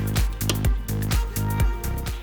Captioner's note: bracket clicks